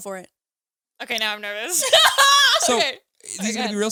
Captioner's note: laughs